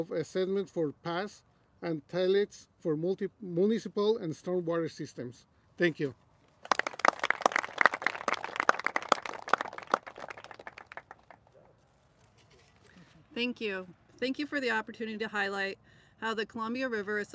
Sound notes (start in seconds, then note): 6.6 applauses